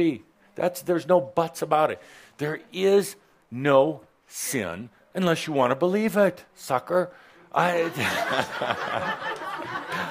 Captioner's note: laughter